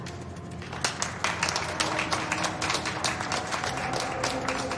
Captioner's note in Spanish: Aplausos